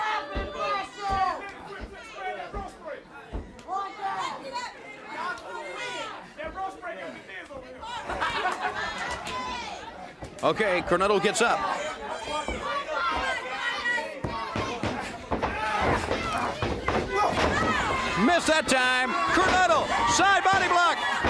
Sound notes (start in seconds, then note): 2.0 crowd cheering; 4.3 crowd chatter